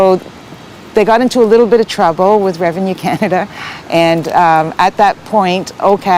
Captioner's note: laughs